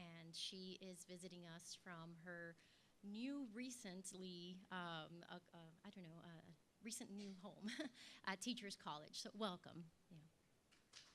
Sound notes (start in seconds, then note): 6.6 laugh; 10.9 applause